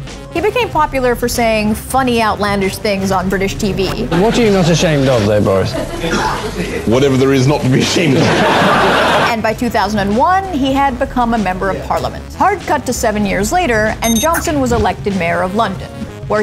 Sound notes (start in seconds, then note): 8.0 laughter